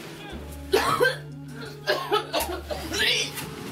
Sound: coughs

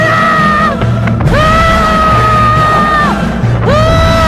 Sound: screaming

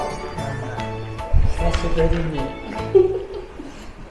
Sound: laughs

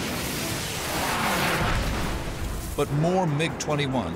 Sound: explosion

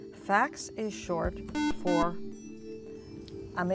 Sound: buzzer

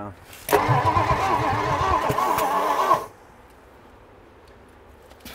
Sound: engine struggling to start

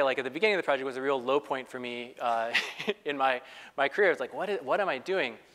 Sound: laugh

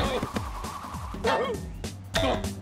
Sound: whimpers

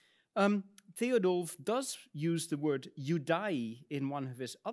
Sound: speaks in Latin

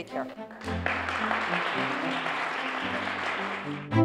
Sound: applause

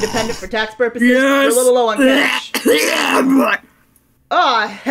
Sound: coughs and barfs

